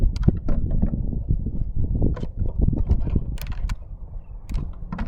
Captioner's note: water bottle rattling